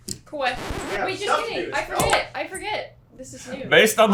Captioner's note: record scratch